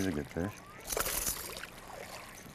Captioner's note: splash